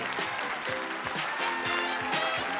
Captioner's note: applause